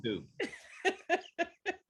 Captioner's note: laughter